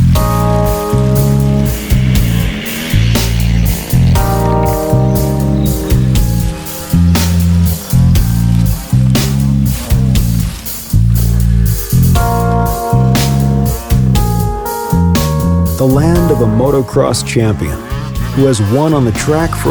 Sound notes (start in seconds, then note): 2.6 ATV engine revving; 2.6 tense music continues